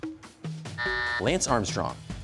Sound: buzzer sounds

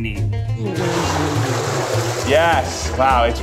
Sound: water splashes

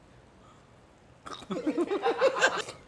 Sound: laughter

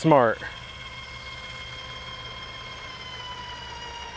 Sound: gates buzzing

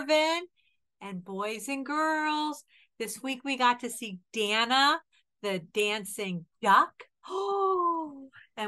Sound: gasp

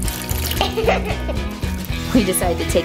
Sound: laughs

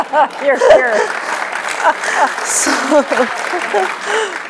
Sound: applause

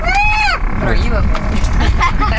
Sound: imitating bird squawk

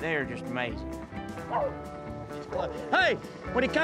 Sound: dogs barking

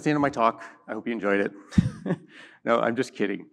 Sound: laughs

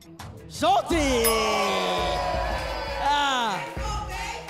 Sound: audience groans

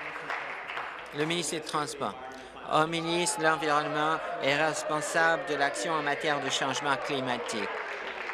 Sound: applause

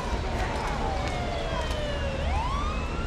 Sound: siren

